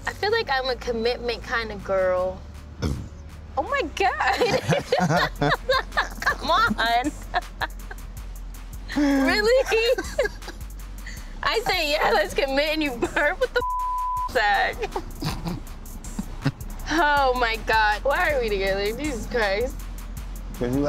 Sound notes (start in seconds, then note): 2.8 burps; 4.2 laughs; 8.9 laughs; 13.6 beep